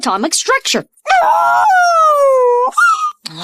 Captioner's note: howls